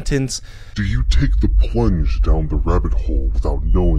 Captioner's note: robotic Voice